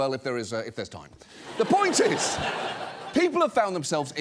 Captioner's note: studio audience laughs